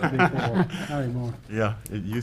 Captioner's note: man chuckles